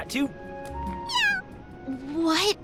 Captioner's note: meow